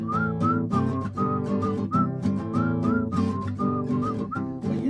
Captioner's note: whistling